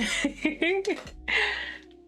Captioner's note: laughing